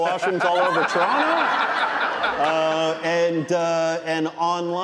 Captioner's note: audience laughing